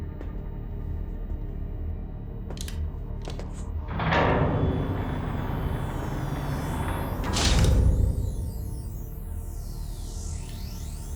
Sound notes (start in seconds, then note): 3.9 door clanks, closes; 7.2 thuds; 8.8 buzzing